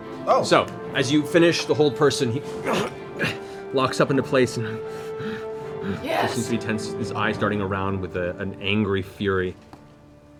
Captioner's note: groans